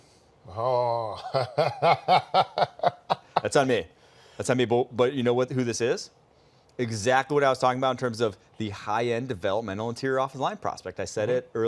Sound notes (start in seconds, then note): 4.1 laughter